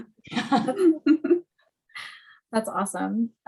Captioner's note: laughing